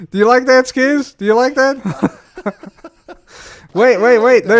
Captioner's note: laughs